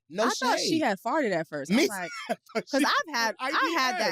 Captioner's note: laughs